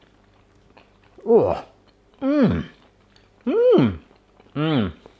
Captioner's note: moaning and humming